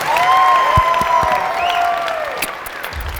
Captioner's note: applause